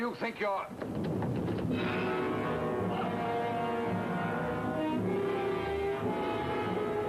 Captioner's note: tense music; ship rumbles